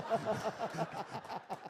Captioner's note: laughter